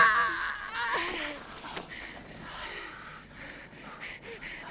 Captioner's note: all breathing heavily